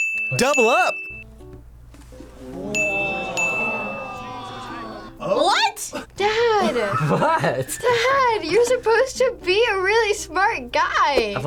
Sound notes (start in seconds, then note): 2.2 crowd; 5.8 laughs